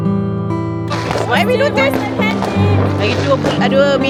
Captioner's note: speaking German